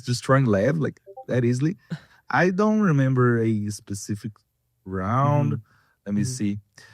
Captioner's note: laughs